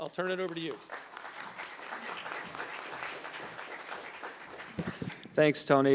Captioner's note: audience applauding